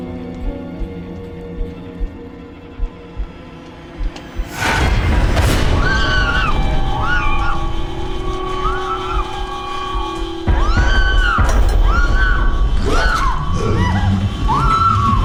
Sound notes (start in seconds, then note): 5.5 screams; 13.3 growling